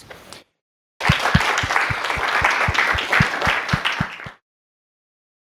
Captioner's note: applause